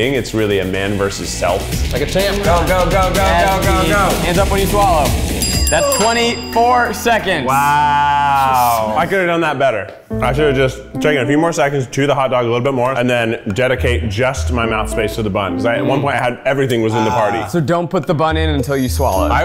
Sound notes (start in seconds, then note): 5.3 timer dings; 10.0 slow piano music plays